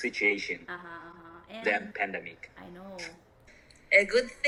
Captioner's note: haha